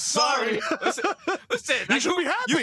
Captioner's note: laughter